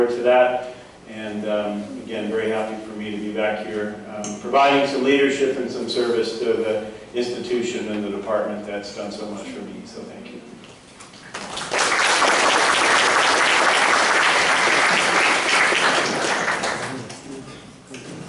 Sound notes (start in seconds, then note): 14.9 applause